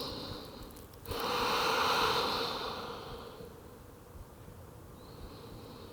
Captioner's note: inhales and exhales